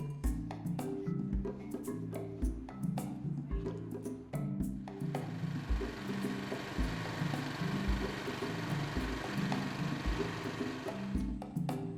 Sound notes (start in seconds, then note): 0.1 faster African percussion music; 5.0 concrete mixer